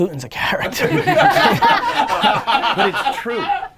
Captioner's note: laughter